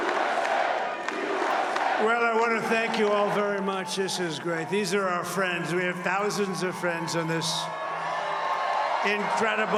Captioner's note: crowd chanting "usa"